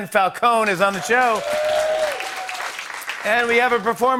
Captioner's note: cheers and applause